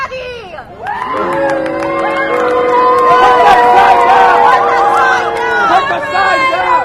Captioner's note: cheers and boos